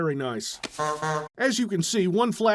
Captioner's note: honk honk